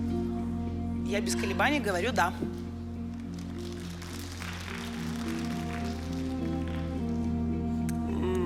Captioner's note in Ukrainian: оплески